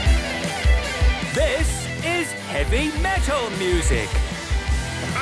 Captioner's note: shouting